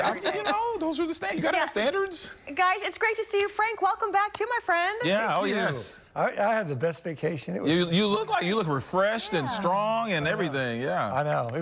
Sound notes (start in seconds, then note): 0.0 laughter